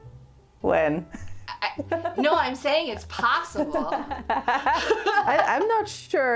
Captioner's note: laughter